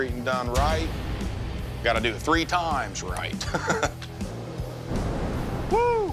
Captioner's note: chuckles